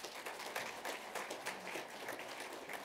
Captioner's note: applause